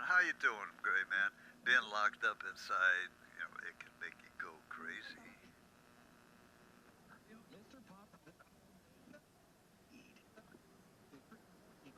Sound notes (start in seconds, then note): 7.4 stations tuning